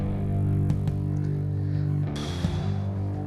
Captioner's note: sigh